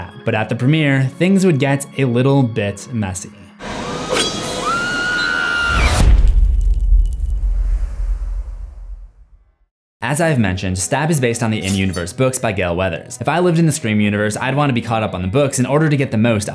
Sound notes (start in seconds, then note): 3.6 blood curdling scream; 5.8 impact